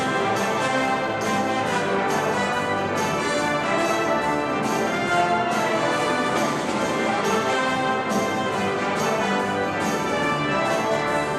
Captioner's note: applause